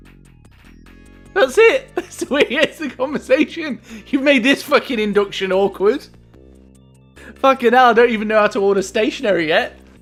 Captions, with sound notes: That's it? *laughing* That's the way he ends the conversation. You've made this fucking induction awkward. Fucking hell, I don't even know how to order stationary yet!